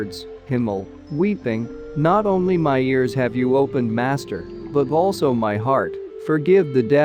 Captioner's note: weeping